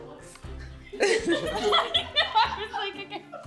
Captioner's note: all laugh